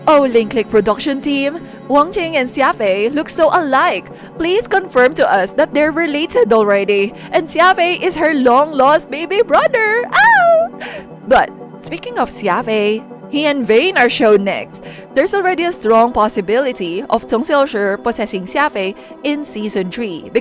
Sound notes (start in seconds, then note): 10.1 squeal